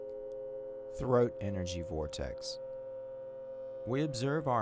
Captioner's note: tone reverberating